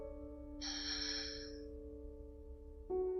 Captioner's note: sighs